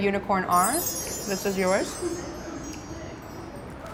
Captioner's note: chimes tinkle